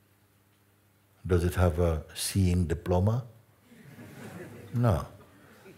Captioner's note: Lachen